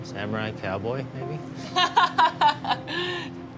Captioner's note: laughing